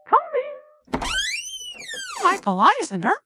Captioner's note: door Opens